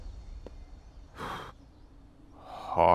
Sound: exhales

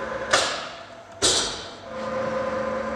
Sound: click

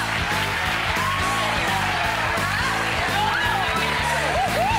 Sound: clapping and yelling

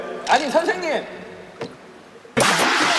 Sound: bang!

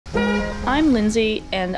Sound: honk

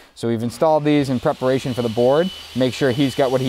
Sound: power saw buzzing

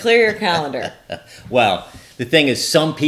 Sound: chuckles

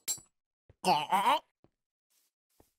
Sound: villager choking

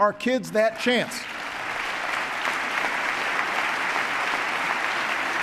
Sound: applause

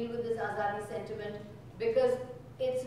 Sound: speaking in foreign language

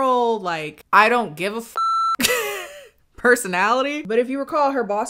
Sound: beep

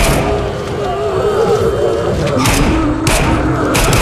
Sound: eerie howling

